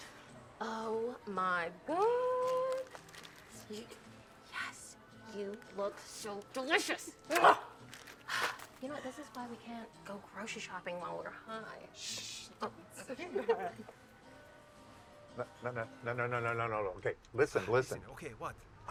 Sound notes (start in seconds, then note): 8.2 exhales; 12.9 Mackenzie and Jordyn laughing